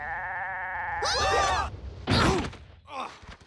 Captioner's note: bleating